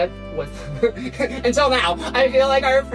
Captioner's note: laughs